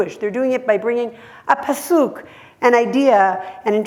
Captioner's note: hebrew